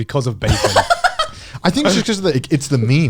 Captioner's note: laughing